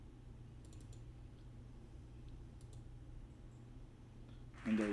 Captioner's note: click